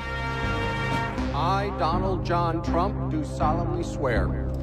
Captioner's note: English language spoken